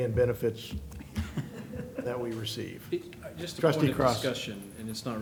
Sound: laughter

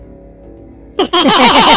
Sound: they both laugh

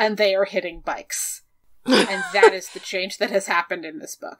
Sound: laughs

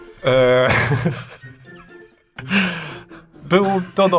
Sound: laughter

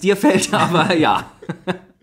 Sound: laughs

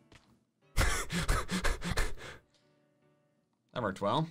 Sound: laughing

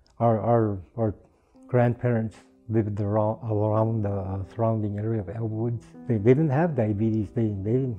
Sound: none

